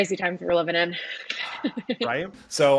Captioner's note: laughs